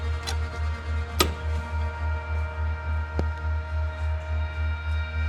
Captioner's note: door handle rattles; spooky music